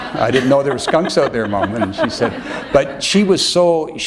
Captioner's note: laughter